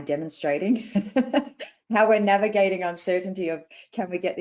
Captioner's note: laughs